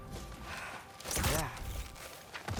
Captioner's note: sigh